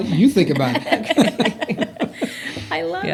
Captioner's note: laughter